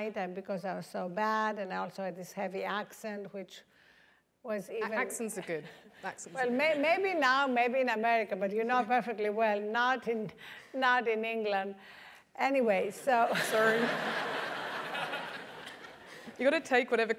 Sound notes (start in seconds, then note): 5.6 laugh; 13.4 laugh